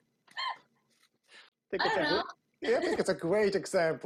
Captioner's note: laughs